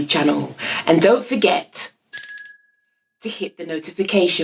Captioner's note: bell ringing